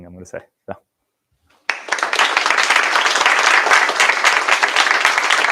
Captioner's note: applause